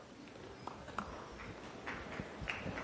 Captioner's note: applause